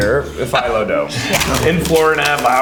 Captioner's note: cone cracking